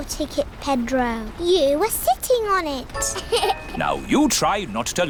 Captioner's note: laughs